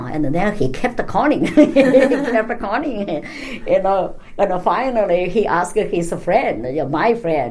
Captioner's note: laugh